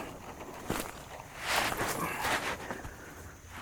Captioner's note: shuffling